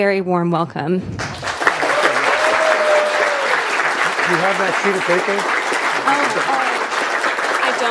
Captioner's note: applause